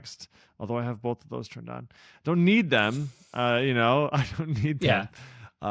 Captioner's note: laughs